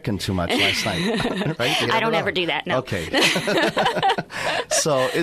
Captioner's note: laughs